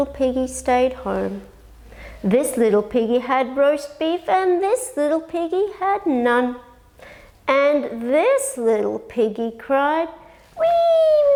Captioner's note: cry